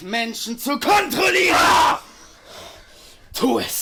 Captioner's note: Tom screams